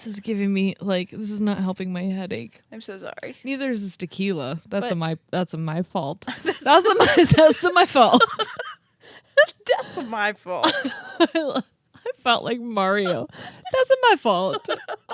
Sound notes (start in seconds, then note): 6.3 laugh; 10.7 laughs